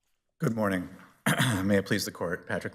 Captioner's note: clears throat